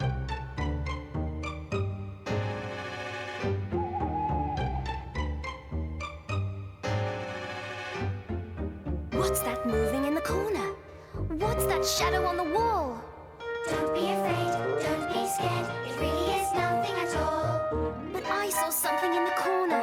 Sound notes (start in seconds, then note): 3.7 owl hooting